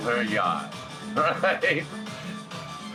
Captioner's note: chuckles; music